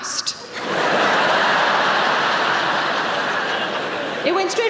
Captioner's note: audience laughing